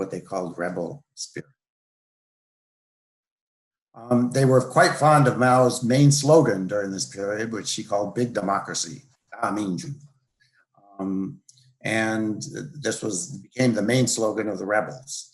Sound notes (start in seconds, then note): 10.6 speaks Chinese